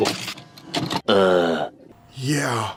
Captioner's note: uhhh